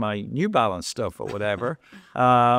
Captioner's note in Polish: śmiech